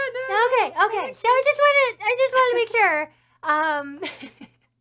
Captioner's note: starts laughing